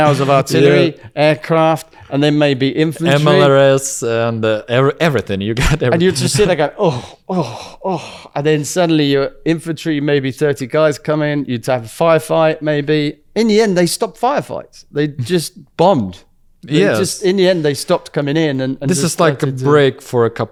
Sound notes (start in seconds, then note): 5.6 laughs